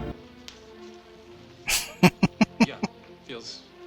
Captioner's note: laughing